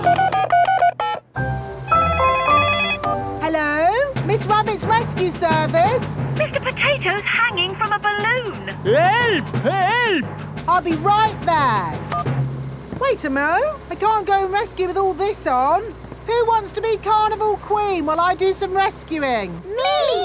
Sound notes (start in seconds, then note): 0.0 beeping; 1.9 phone ringing